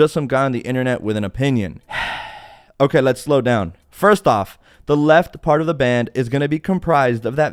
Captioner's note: sigh